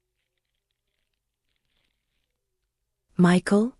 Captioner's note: long pause; uncomfortably long pause